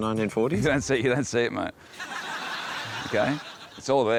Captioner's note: laughter